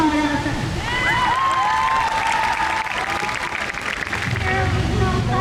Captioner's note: crowd cheers